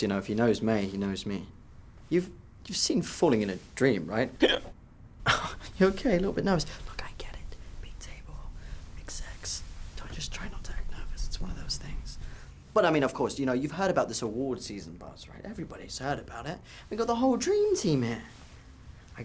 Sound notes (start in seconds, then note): 4.4 Jack hiccups; 5.2 chuckles